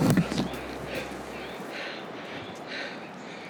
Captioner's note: panting